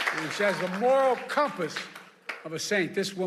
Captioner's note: applause